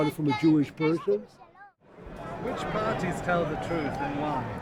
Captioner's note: voiceover